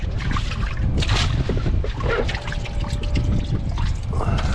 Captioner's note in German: Wasserspritzer